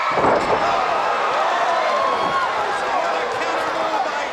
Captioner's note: group gasping